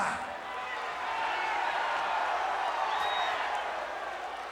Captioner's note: crowd cheering